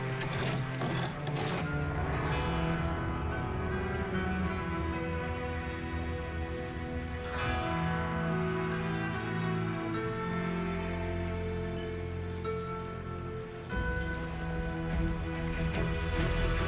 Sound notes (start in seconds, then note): 0.0 scratch